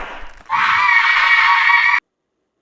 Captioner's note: screams